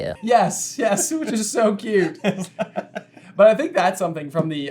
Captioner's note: giggles